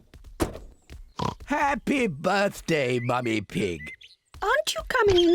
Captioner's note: oinks